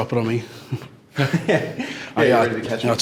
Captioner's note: laughs